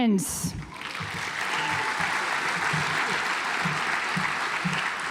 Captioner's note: audience applauds